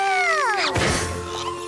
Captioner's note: crash